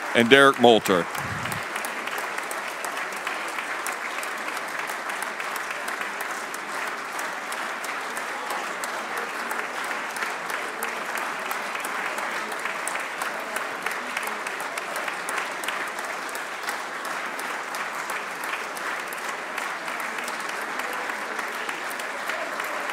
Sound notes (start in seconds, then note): 8.7 applause